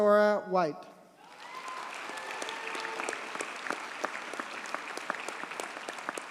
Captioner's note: audience cheers and applauds